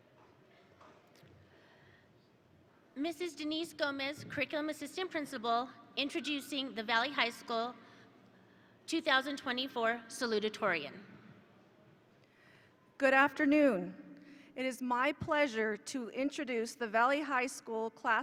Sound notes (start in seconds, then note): none